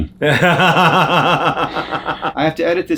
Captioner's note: John laughs